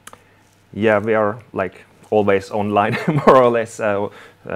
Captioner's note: chuckles